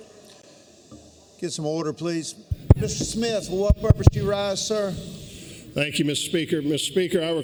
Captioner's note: pounding of gavel